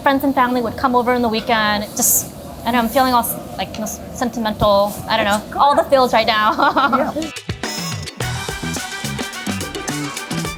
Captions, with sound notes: Friends and family would come over on the weekend and I'm feeling all like sentimental. I don't know, all the feels right now. [laughing] - Yeah. [lively music]